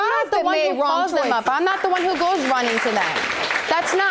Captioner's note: audience applauding